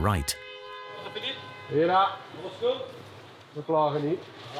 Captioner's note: French spoken audio